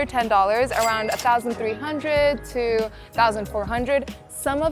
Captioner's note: chime ringing